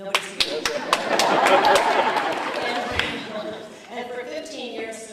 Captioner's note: sparse applause, laughter